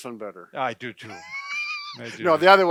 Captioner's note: laughing